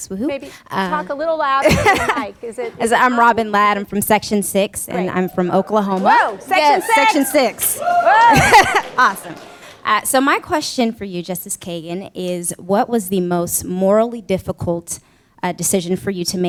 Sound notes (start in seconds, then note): 5.0 cheers; 8.2 laugh